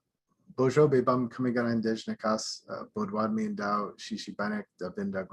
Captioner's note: speaking in foreign language; speaking foreign language